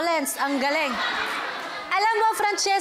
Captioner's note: laughter